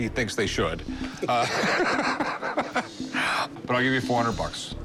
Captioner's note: laughs